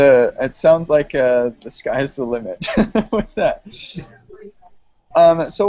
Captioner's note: laughs